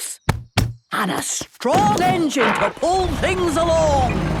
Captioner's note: thumping